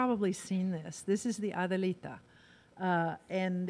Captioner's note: in foreign language